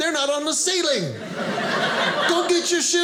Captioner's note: audience laughing